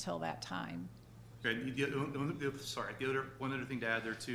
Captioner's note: stuttering